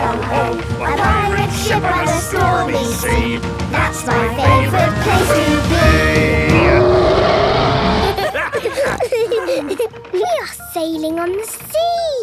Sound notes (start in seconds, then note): 6.1 roaring; 7.9 snorting; 8.0 laughter